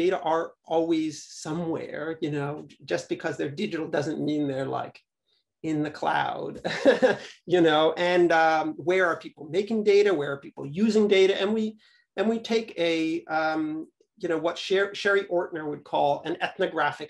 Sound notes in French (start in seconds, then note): 6.6 avec humour, rires